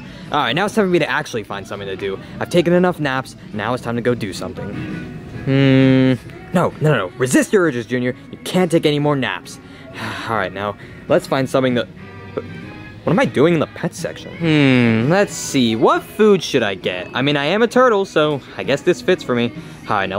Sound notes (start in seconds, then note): 9.9 sighs